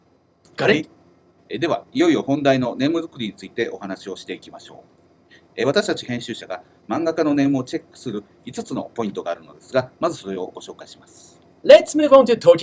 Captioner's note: speaking Japanese